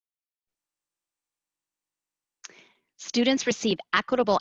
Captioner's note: silence